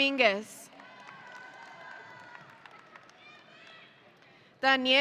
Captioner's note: audience cheering